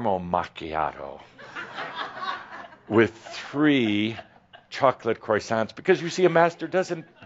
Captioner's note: laughter